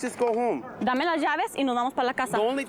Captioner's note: speaking spanish